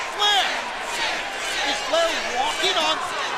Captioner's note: crowd chatter